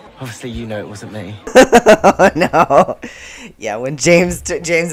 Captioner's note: laughter